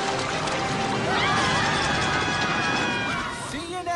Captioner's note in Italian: urla